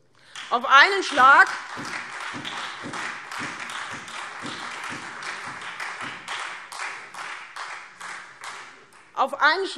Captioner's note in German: Beifall Freie Demokraten und SPD